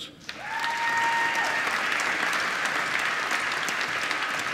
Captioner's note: applause